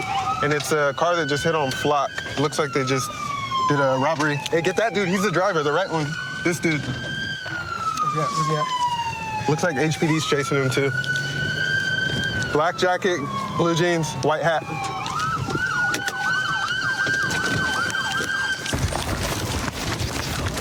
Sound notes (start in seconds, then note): 7.0 siren wailing; 14.7 siren wailing